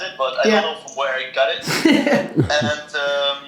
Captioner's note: Gary laughs